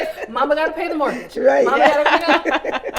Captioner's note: all laughing